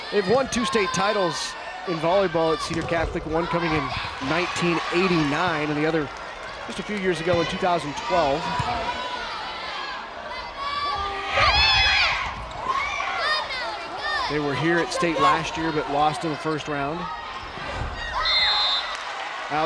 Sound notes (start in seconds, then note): 10.7 players yelling; 18.2 whistle blows